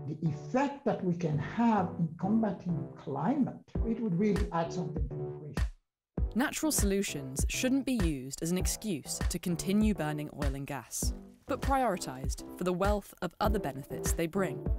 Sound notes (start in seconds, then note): 5.8 voiceover